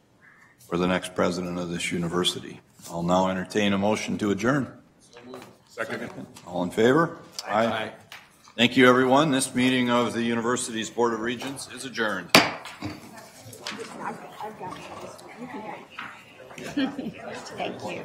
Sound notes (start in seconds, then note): 12.3 gavel bangs